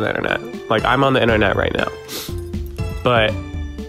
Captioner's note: sniffs